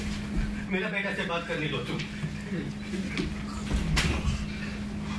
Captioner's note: speaks in foreign language